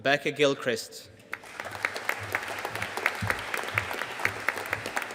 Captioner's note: audience applauding